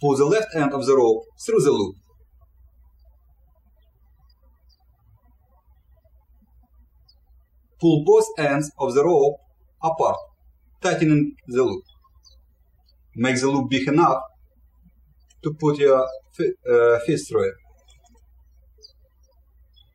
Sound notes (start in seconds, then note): 2.5 birds chirping; 18.4 birds chirping